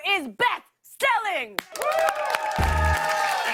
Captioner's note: cheers and applause